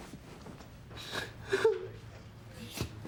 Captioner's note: sobs